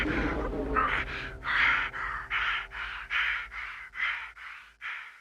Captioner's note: panting